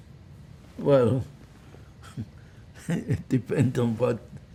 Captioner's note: laughing